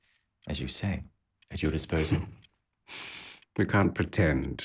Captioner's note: Josip laughs